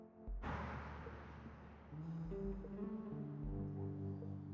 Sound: traffic whooshing

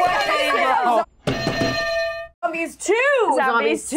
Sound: bell rings; bells ring

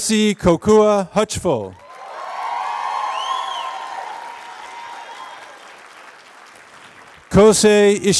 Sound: applause

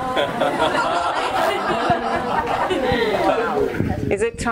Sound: audience laughing

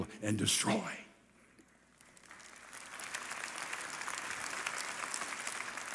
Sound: congregation applauding

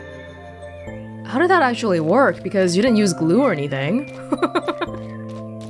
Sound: chuckles

